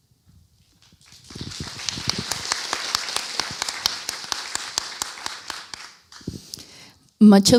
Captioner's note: applause